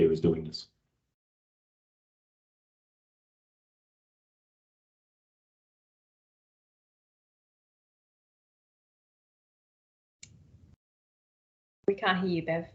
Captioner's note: audio muted